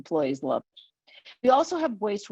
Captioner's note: web-call distortion